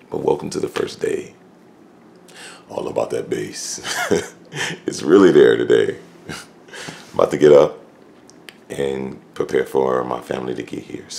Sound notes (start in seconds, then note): 3.8 laughs